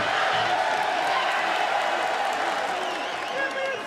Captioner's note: crowd cheers